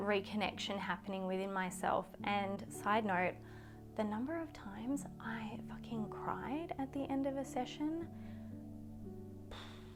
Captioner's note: sighs